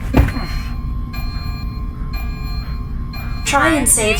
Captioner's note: alarm blaring